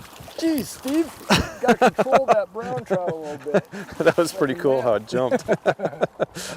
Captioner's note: laughing